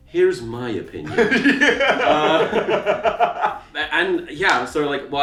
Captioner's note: laughing